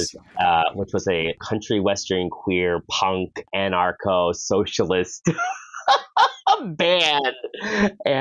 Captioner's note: laughs